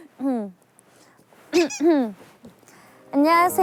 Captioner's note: clearing her throat